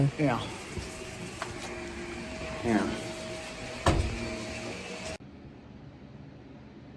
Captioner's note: vacuum runs